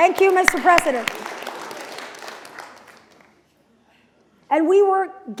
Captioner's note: applause